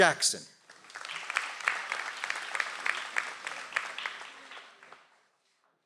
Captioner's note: audience applauds